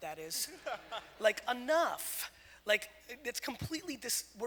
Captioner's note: audience laughter